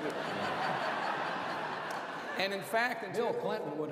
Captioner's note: laughter